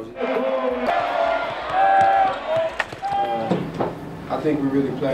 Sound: applause

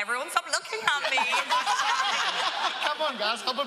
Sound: laughter

